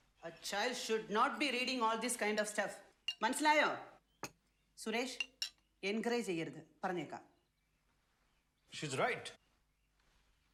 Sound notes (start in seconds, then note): 2.8 speaking foreign language